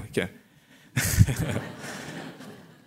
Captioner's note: laughter